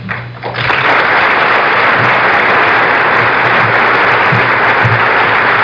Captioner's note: applause